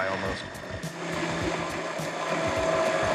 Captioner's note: whirring